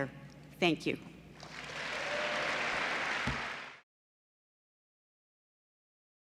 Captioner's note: applause